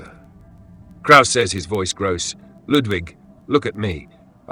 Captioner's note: his voice grows hoarse